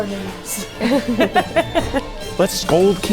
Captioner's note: laugh